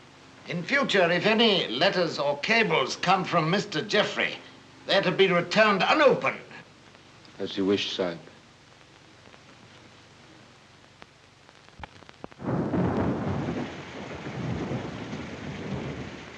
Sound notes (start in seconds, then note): 12.3 thunder rumbling